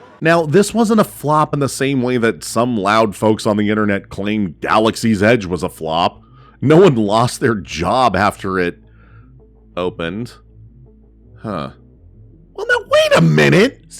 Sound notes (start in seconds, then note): none